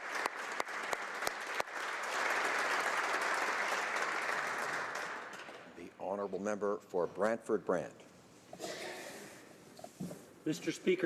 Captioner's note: applause